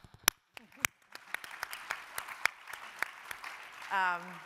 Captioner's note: audience applauding